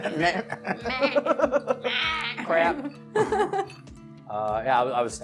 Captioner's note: attempts at zombie speech